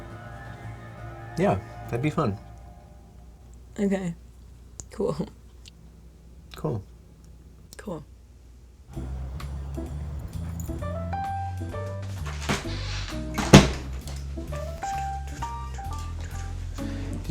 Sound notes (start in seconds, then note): 11.8 door opens and closes